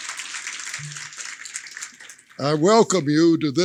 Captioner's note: applause